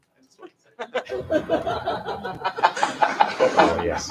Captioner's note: laughter